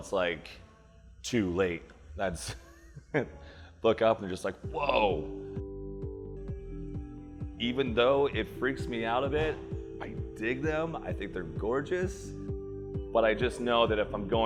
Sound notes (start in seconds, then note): 2.3 laugh